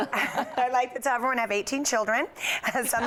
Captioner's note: laughter